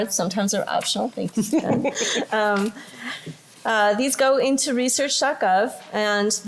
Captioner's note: laughter